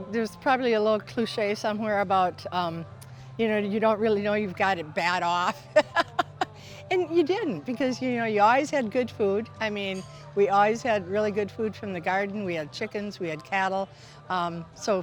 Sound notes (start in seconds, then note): 5.4 laughs